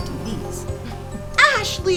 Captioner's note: bees buzzing